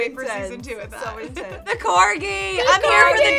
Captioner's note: chuckles